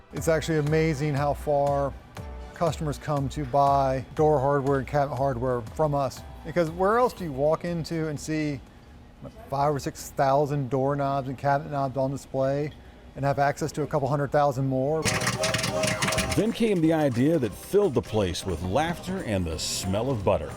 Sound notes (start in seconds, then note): 15.0 machine tooting; 15.0 popcorn popping